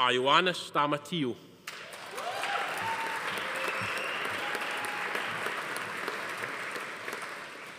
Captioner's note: audience applauding; attendees cheering